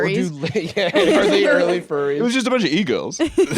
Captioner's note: laughs